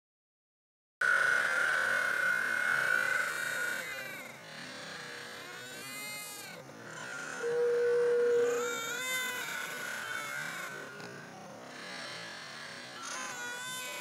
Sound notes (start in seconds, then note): 1.0 Lilo and stitch, brother bear, barbie Mattel doll crying